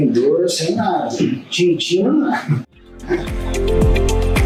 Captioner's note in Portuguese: risos